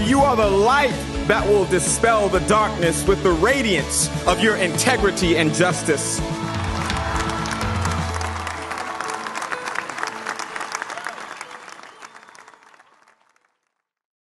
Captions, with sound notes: for you are the light that will dispel the darkness with the radiance of your integrity and justice . (Cheering and clapping)